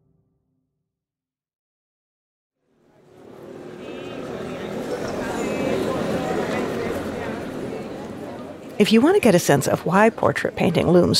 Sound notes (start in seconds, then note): 2.7 people chattering